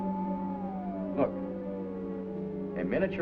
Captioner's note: device humming louder